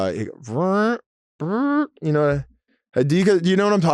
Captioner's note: mouth farts